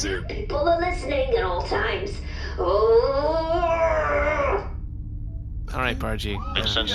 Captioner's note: groans